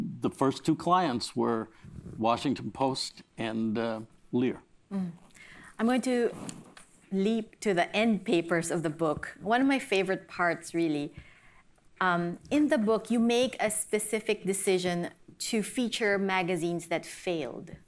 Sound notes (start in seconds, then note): none